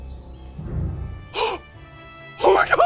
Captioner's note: gasp!